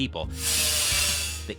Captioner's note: machine grinds